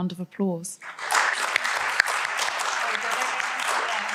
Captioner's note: applause